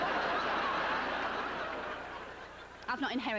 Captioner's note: howling laughter